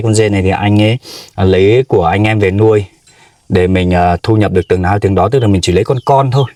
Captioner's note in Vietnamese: khịt mũi